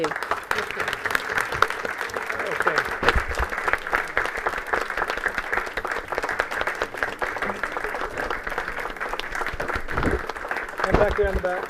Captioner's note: applause